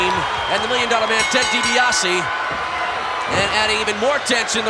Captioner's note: bell ringing